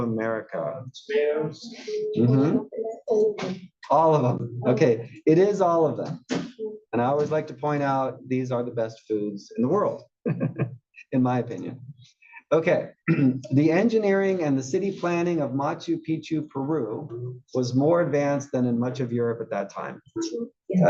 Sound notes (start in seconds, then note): 10.2 laugh; 13.1 cough